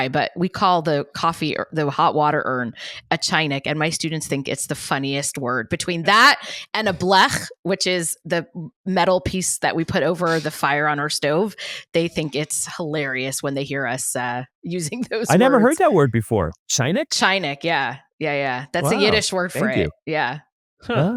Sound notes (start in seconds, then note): 15.3 laughs